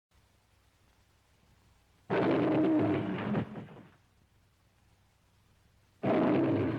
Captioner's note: leão rugindo